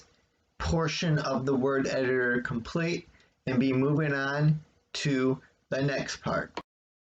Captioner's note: click